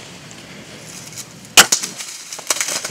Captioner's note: sound of bowshot; sound of running